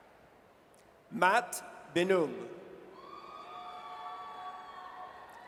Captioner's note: audience cheers